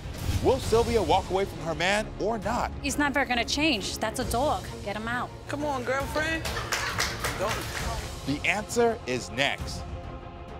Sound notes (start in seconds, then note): 6.3 audience members laugh and clap